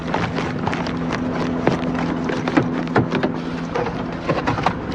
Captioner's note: footsps